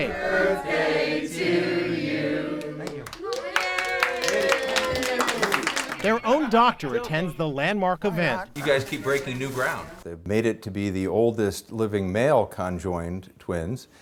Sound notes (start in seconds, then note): 2.8 applause